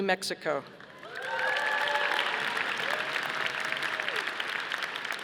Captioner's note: audience applauding